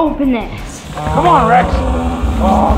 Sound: dinosaur sound

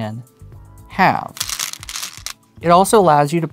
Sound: stones rattling

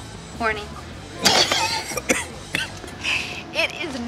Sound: coughing

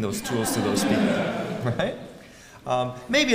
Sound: laugh

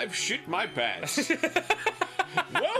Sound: Danny laughs

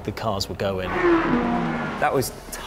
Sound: engines revving

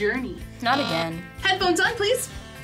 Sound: buzzer

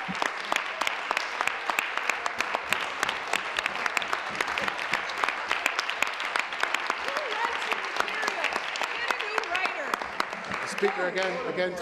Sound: applause

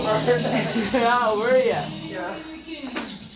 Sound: laughter

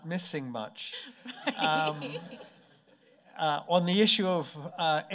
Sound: chuckling

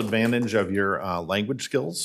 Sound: applause

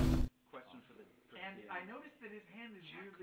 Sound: none

